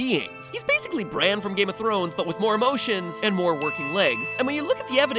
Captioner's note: ding! ding!